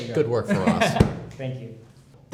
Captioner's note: laughs